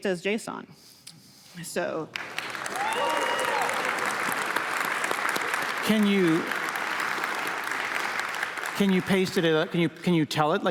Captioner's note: applause